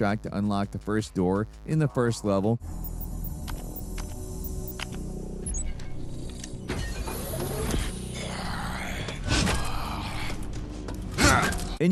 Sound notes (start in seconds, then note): 4.4 keypad beeping; 7.0 door whirring; 8.2 creature groaning